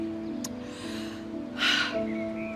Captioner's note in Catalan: sospira